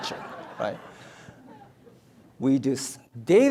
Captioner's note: audience laughs